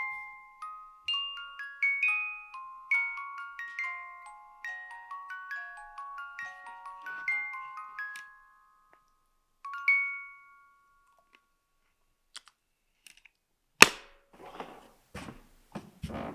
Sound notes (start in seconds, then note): 0.2 gentle music; 14.4 lid thuds